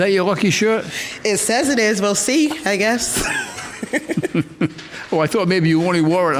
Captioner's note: laughs